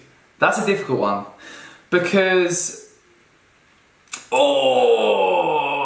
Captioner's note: grunts